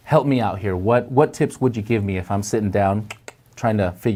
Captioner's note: clicks tongue